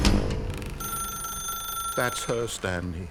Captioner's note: telephone ringing